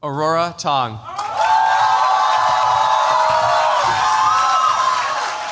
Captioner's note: cheers, applause